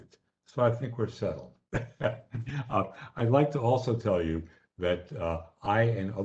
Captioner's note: laughter